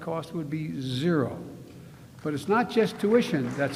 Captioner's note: applause